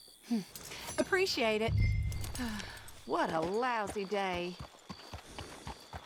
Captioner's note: sighs